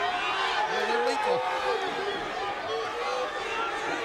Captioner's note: crowd clambering